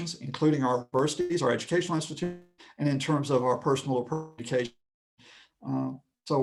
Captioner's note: connection lost